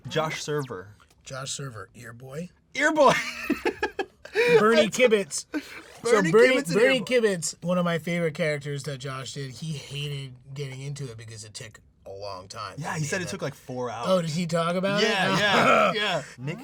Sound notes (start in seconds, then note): 3.0 laughing